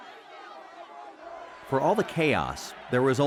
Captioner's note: crowds yell angrily